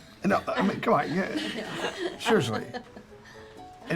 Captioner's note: all chuckling